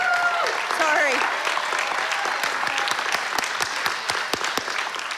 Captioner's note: applause